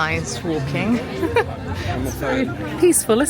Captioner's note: tourists chattering; chuckling